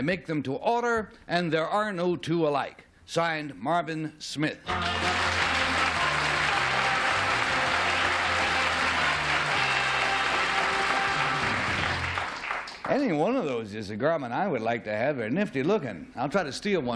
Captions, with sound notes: I make them to order, and there are no two alike. Signed, Marvin Smith." [applause] Any one of those is a garment I would like to have. They're nifty looking.